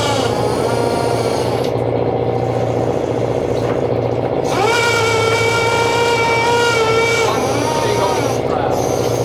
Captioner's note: engine revving